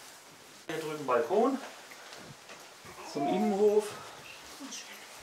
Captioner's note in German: brabbelt